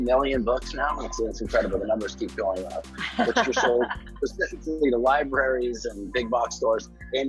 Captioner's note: laughs